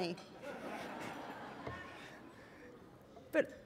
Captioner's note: laughter